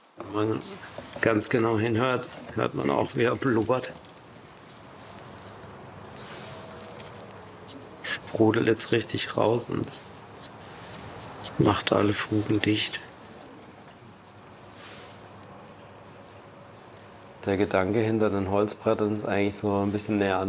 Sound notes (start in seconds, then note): 4.2 low hissing sound